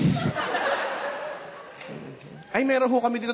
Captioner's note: laughter